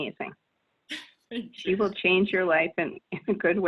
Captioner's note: laughs